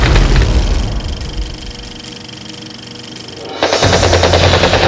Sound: film reel clicking; dramatic music; guns roaring

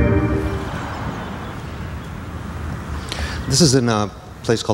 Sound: mysterious music; birds twittering

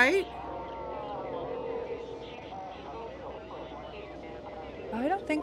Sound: static and distorted sounds

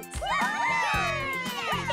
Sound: cheering

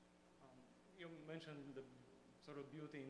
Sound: voiceover

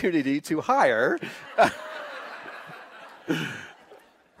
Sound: laughing

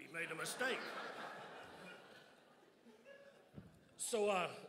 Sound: crowd laughs

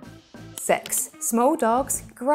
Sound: graphics clicking

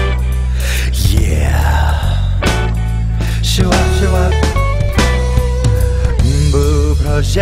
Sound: shwop shwop

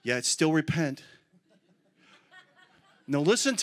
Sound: congregation laughs

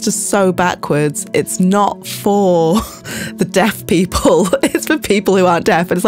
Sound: laughs

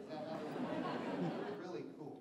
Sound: laughter

